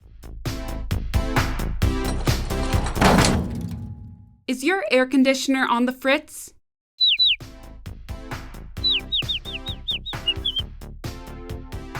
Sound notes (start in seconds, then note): 3.0 mechanical thud; 7.0 Goldie tweeting; 8.8 Goldie tweeting